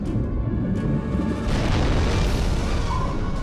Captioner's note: crashing, rumbling